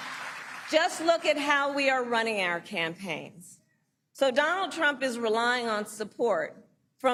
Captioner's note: applause